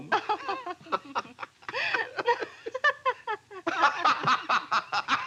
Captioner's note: laughing